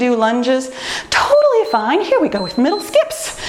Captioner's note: timer beeps